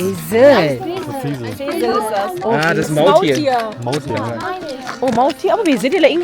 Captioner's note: speaking German